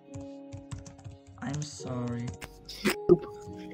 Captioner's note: typing